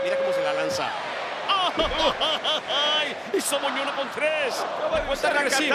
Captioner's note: laugh